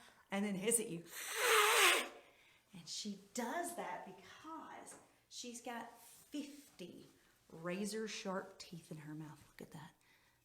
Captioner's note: hissing